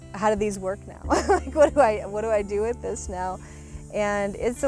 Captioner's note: laughs